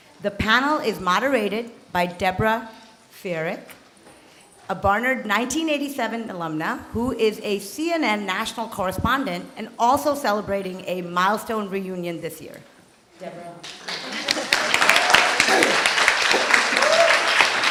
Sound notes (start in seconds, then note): 13.6 applause